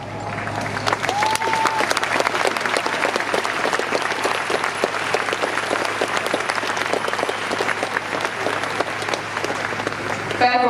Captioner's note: applause